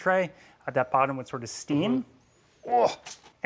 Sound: groans lifting matambre

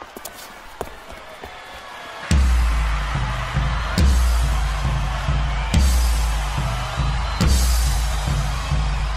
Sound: cheering crowd

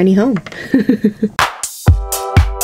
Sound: laughs; electronic music

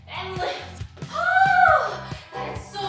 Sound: screams

